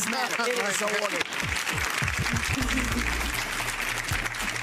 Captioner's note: people clapping